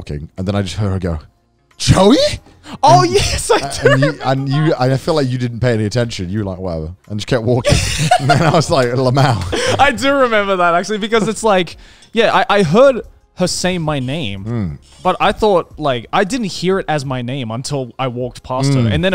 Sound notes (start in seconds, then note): 7.7 laughs; 9.2 speaks in Japanese